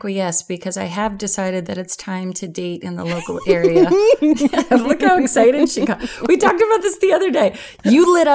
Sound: giggling

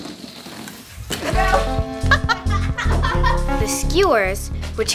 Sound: laughing

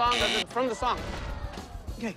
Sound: buzzer sounds

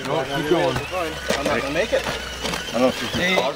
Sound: motor whining

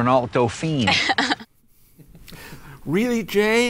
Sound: girl laughs

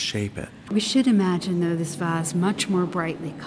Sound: voiceover

